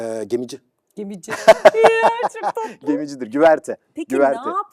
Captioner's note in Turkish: kahkaha